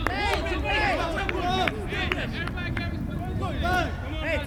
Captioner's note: field chatter